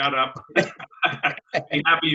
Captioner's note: laughs